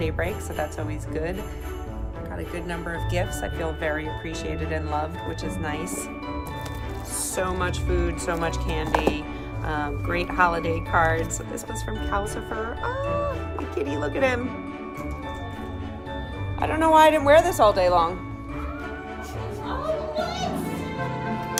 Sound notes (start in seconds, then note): 19.4 women exclaiming